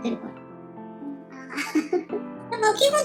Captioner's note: laughs